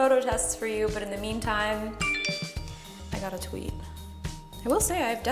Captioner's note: phone chiming